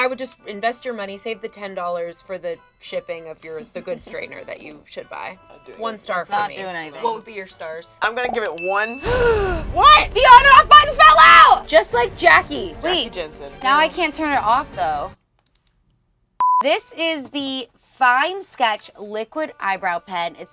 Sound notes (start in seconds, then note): 9.2 gasps